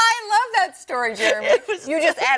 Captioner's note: laughter